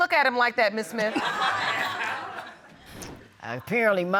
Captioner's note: audience laughs